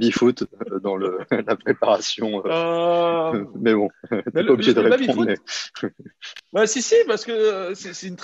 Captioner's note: haha